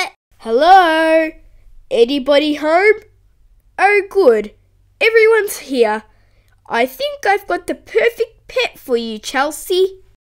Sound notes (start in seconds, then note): none